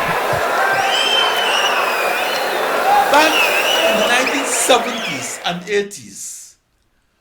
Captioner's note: wild applause and cheering for 22 seconds